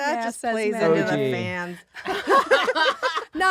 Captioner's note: laughing